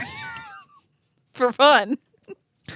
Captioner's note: laughing